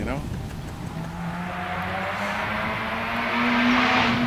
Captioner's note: car engine